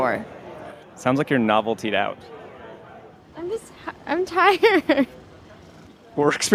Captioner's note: laughs